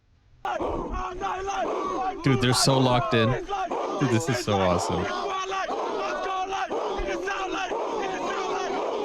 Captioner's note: screaming